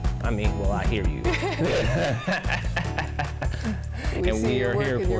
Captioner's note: both laugh